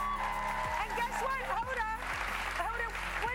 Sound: cheers and applause

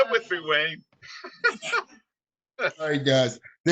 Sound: chuckling

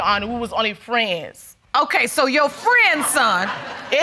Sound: audience laughing

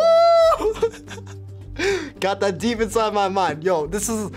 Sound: laughing

